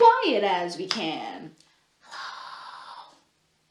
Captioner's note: whispers